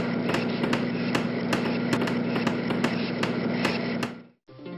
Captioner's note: sawing and Hammering sounds